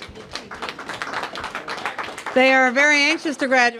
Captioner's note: applause